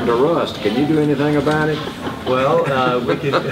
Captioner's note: laughs